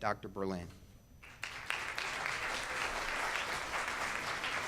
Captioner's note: audience claps